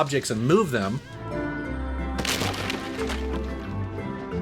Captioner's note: game sounds